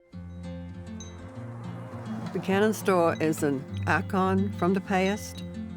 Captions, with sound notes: [wind chimes chiming] [truck whooshing] - Buchanan's Store is an icon from the past.